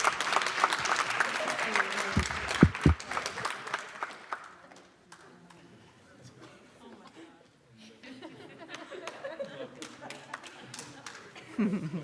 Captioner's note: applause